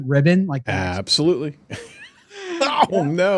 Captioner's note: laughs